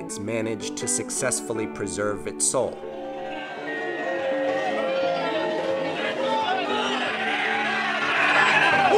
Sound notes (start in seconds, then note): 2.8 crowd shouting